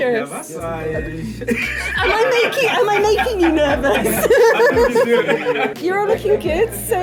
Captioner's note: laughter